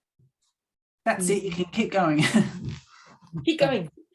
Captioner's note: chuckles